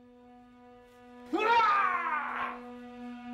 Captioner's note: yells